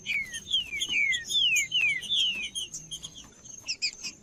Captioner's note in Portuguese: trinca ferro cantando